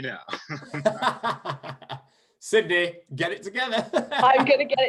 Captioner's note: laughter